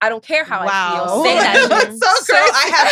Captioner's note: laughs